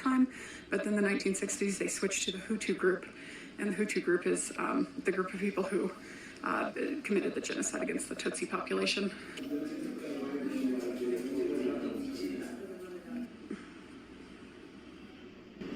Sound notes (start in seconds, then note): 9.6 background chatter